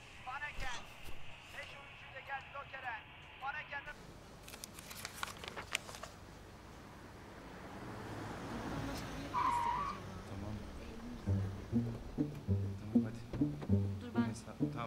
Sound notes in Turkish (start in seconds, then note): 4.4 Kâğıt sesi; 8.8 Fren sesi